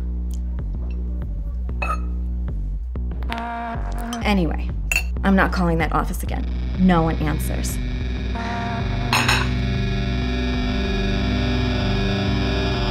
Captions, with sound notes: (patron's neck cracking) Anyway, I'm not calling that office again. No one answers. (discordant music)